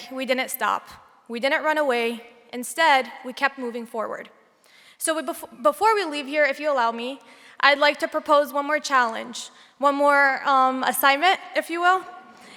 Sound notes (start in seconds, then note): none